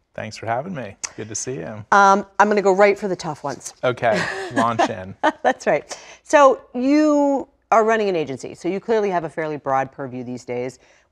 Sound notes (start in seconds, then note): 4.1 laugh